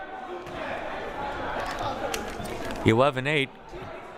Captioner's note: crowd murmuring